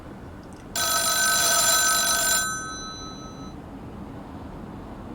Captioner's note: phone ringing